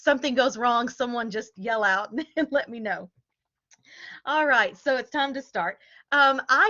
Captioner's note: laughter